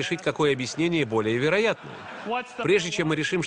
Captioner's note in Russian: Смех